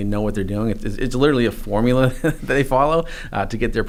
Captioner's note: chuckles